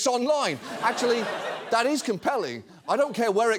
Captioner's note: audience laughs